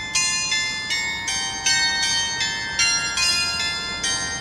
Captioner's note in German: glocke